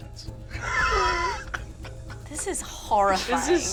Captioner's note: laughing